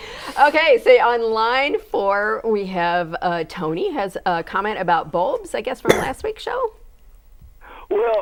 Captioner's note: laughing